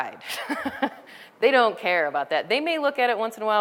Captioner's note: laughter